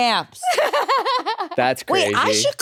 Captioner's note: laughs